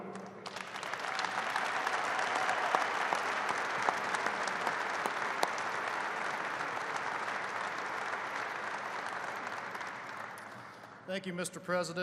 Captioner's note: applause